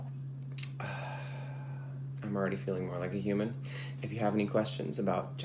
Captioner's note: sighs